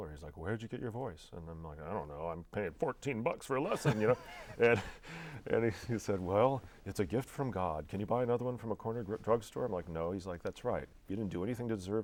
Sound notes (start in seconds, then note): 3.6 laughing